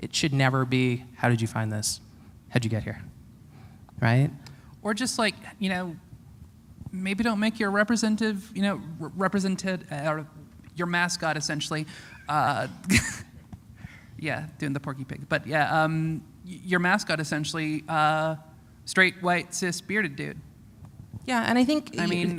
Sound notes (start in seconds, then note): 12.6 chuckle